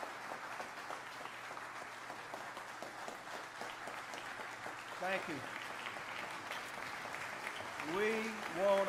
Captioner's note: applause